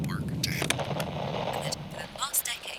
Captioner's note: radio static